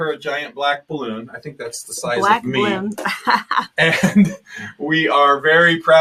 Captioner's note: laughing